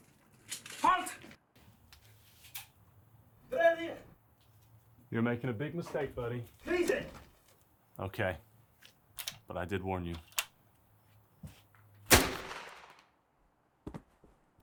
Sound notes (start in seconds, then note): 1.4 speaking in German; 6.9 shouting in German; 12.1 shot fired